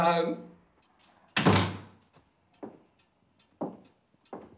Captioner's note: door slamming